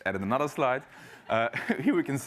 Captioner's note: laugh